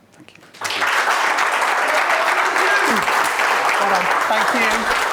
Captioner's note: audience applauds